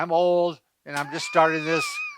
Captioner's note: laughs